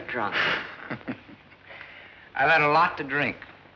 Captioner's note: laughs